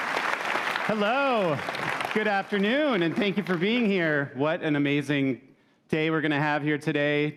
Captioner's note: cheers and Applause